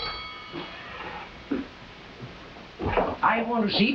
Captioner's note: door creaking